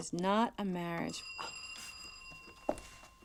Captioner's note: doorbell ringing